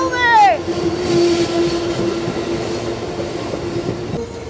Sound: brakes screech

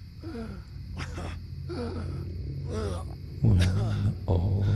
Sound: Batman gasping

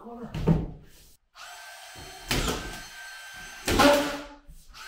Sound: nail gun sounds

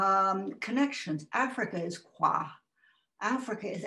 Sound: non-english

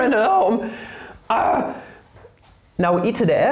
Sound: angry Gibberish

